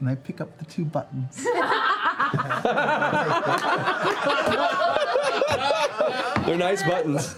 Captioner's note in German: Lachen